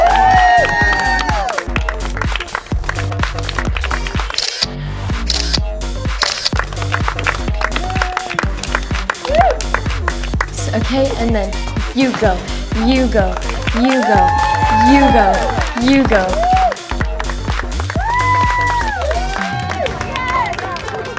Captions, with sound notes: (crowd cheers and applauds) (camera clicking) - Okay and then, you go, you go, you go, you go, you go. (crowd cheers and applauds)